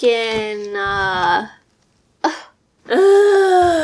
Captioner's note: augh